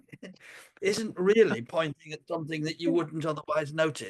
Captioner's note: laughs